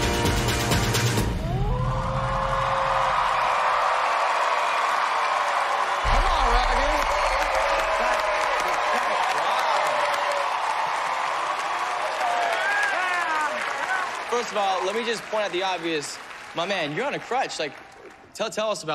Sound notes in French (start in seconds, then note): 1.4 wolf cry; 4.5 applause